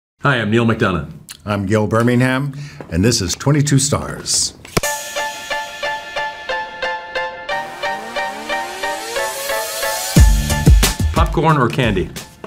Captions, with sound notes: - Hi, I'm Neal McDonough. - I'm Gil Birmingham, and this is 22 Stars. (clapperboard clicking) (upbeat music) - Popcorn or candy?